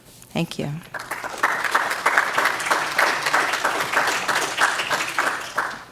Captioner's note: audience clapping